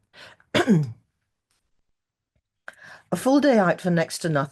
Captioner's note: clears throat